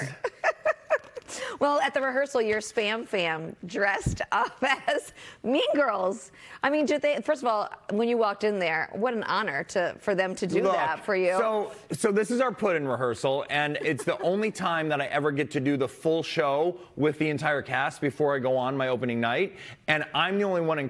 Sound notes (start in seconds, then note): 9.1 laughter